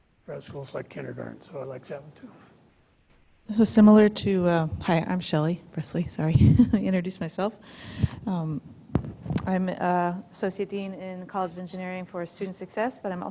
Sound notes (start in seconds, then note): 6.3 laughter